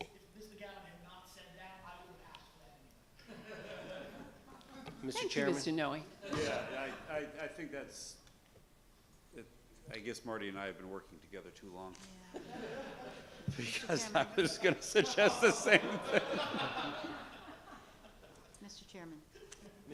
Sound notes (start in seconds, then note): 2.7 speaks faintly; 3.2 laughing; 12.3 laughing